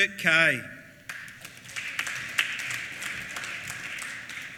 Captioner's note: applause